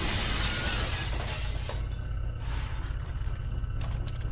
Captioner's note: glass breaking